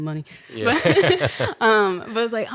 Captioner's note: both laughing